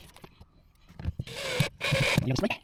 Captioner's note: drill whirring